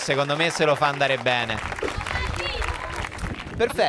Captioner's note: Applausi